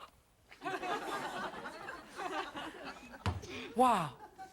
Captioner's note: audience laughing